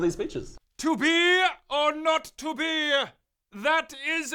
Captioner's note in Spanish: Pomposamente